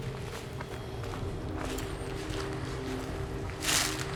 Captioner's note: shuffling footsteps